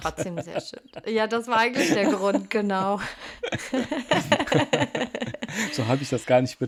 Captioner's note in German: gelächter